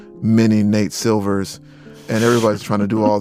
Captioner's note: chuckles